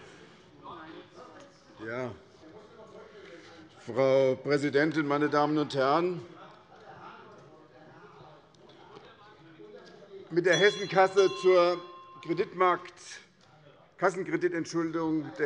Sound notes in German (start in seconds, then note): 10.4 Unruhe - Glockenzeichen der Präsidentin